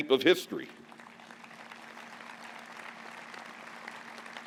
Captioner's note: applause